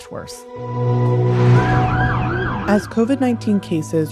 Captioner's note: emergency sirens